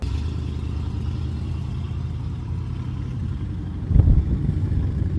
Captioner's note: engine rumbles